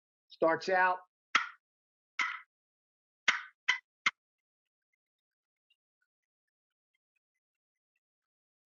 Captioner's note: turkey call sounds